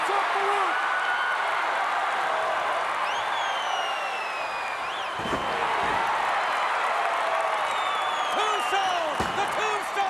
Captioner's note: applause